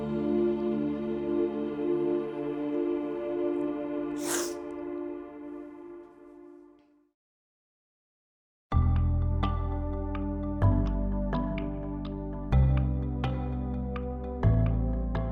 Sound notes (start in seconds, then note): 4.2 sniffles; 8.9 light music